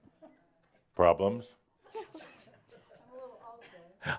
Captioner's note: a few giggles